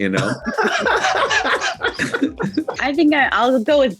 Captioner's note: Nick, Aidy, and Brandon laughing